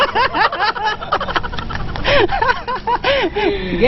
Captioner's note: laughing